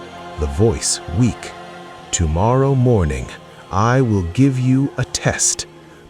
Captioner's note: Voice shifts - weak Kwame